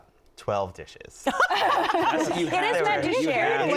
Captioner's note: laughing